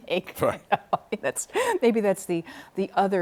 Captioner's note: laughter